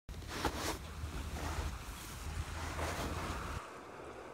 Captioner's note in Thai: เสียงเดินบนทราย